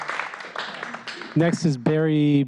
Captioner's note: applause